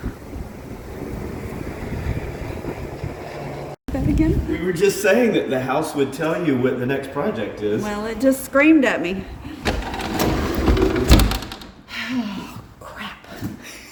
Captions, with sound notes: say that again we were just saying that the house would tell you what the next project is well it just screamed at me [Window closing] [Sigh] oh crap